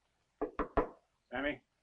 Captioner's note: Carl knocking